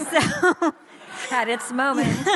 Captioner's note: audience laughs